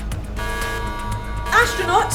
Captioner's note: warning buzzer